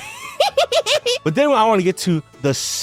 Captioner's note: accessiblefunky giggling